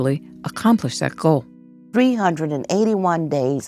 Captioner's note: soundbite of archived recording